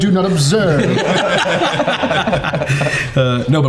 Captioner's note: all laughing